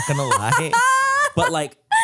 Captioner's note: laughs